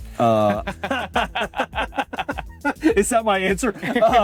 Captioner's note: both laughing